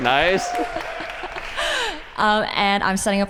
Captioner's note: applause